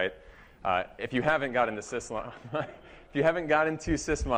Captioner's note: laughter